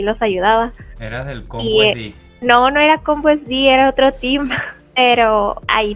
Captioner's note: laughs